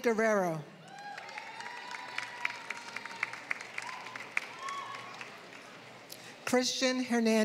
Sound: applause

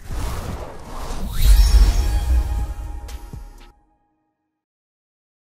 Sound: air whooshing; electronic chime

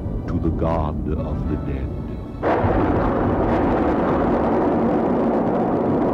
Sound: none

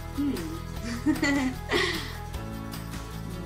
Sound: laughs

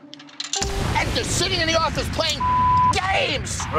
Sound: beep

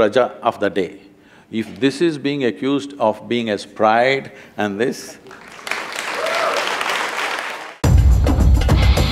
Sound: applause

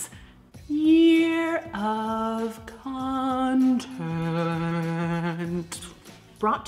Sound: sing song

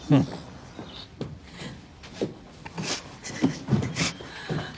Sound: sniffles

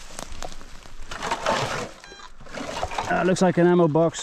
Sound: metal clanging

